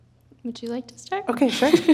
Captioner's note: chuckling